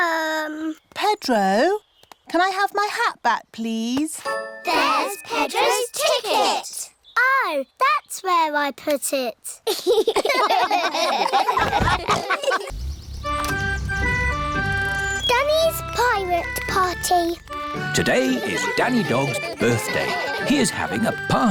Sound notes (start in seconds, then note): 9.6 all laugh